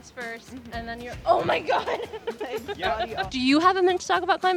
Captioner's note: laughs